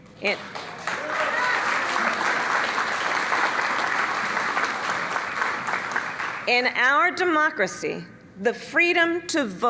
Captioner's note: cheers and applause